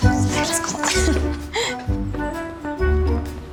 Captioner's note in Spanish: Ríe